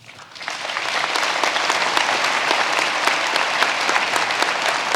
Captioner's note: audience applauding